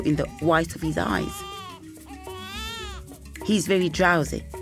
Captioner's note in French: enfant qui pleure